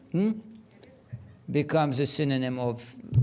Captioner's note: woman speaking faintly